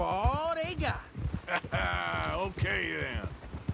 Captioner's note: laughs